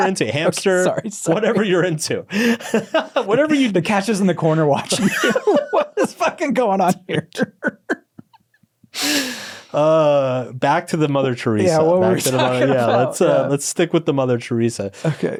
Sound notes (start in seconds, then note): 0.3 laughs; 4.3 laughing; 6.8 both laughing; 11.9 laughing